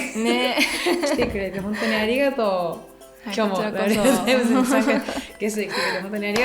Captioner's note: laughs